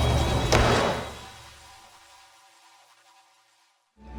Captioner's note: door slams